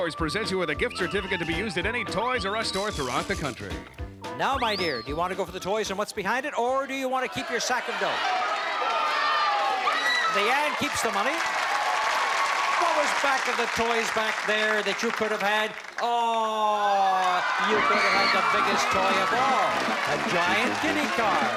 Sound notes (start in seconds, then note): 8.4 audience Shouting; 11.5 applause